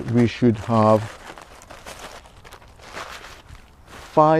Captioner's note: rustling